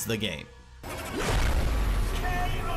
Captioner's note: logo booming